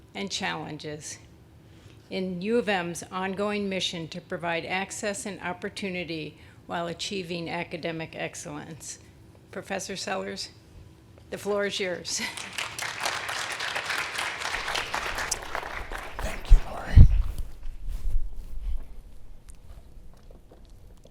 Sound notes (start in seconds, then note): 12.2 audience clapping